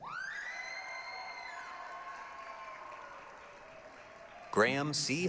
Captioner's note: applause, cheering